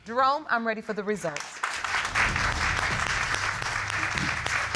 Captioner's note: applause